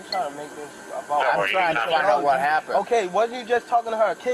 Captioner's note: radio chatter